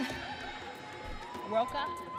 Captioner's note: audience cheering